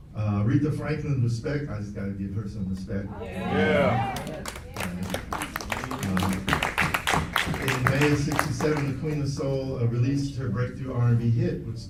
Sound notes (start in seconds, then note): 3.1 audience agreeing; 4.0 applauds